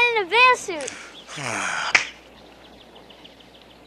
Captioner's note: Bear sighs